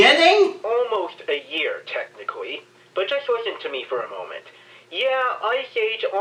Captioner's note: from phone